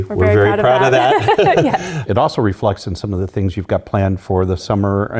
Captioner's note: laugh